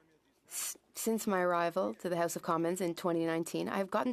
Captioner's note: speaking French